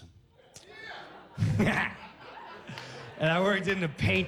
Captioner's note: laughs